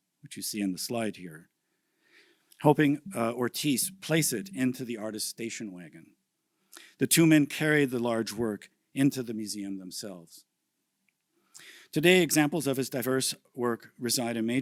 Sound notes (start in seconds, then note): none